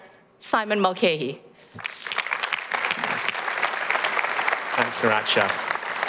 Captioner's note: applause